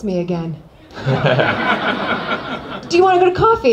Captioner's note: laughter